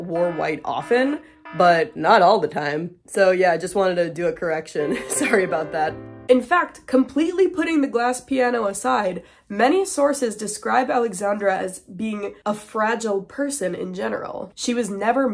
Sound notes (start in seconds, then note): 2.8 laughing; 4.8 sad music